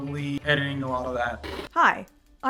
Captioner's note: TV Static